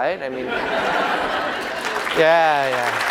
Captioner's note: laughter